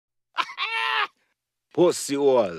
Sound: DJ chuckles

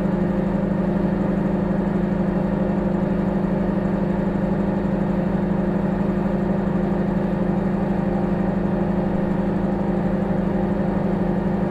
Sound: microwave humming

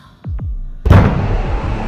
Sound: thud on Door

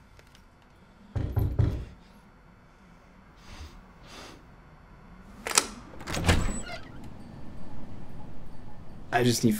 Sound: knocking at the front door

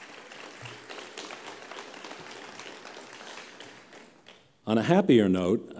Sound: applause

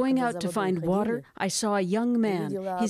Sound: speaking Foreign Language

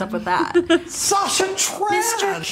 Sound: laughs

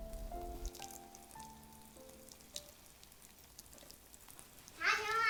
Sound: sound of watering the flowers

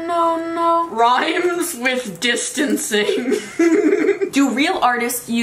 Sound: laughs

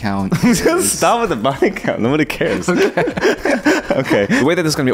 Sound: laughs

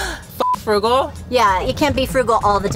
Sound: beep

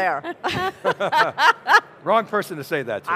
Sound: all chuckle

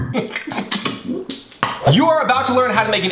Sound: laughs; spits

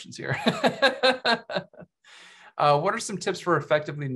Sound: laughs

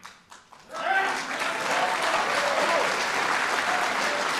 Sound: audience applauds

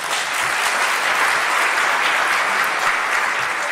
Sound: audience claps

